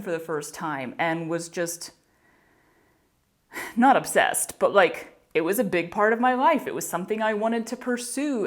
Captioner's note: huff